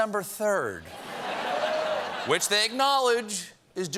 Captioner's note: laughter